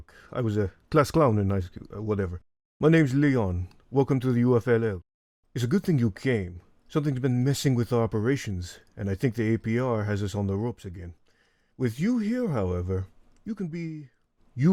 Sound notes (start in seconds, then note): 0.0 inhales; 11.2 inhales